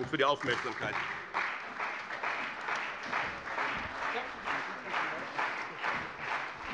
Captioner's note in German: Beifall bei dem BÜNDNIS 90/DIE GRÜNEN und der CDU